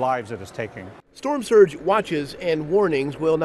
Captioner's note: voiceover